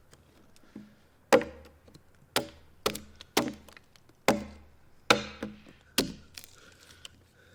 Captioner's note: tool knocking continues; wood breaking